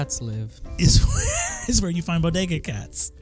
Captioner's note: laughing